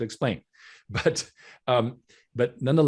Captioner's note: chuckling